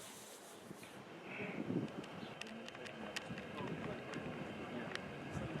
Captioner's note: tourists chattering